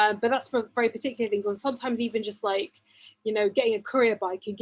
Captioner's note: none